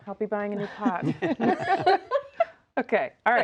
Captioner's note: all laughing